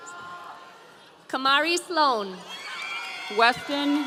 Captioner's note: audience cheering